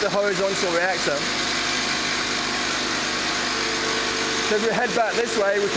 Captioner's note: machine running